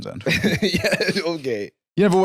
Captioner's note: laughing